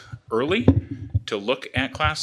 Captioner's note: bangs